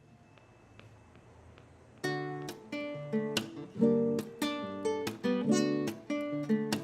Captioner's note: foot taps; acoustic guitar music